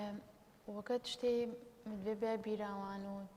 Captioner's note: speaking kurdish